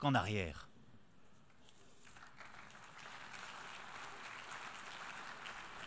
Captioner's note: applause